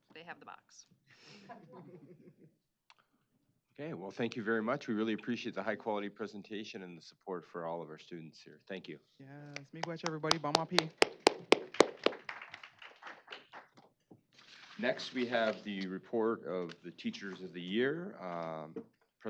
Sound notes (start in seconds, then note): 1.2 laughter; 10.7 speaking Native language; 11.6 applause